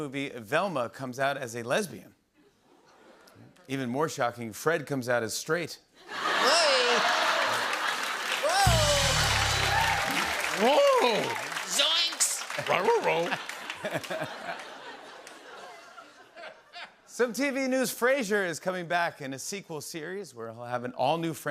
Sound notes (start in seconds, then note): 6.4 laughter and applause; 12.9 laughter